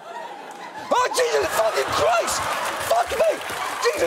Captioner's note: audience laughs